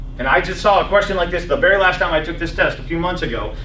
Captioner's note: none